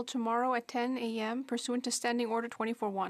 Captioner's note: speaking in French